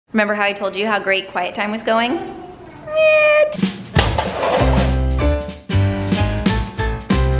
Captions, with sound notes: - Remember how I told you how great quiet time was going? Nah. (cups crashing) (bright music)